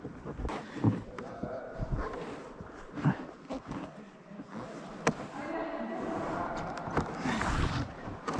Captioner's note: echoing voices